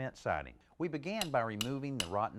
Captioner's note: hammer banging